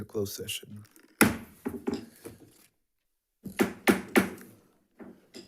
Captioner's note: object banging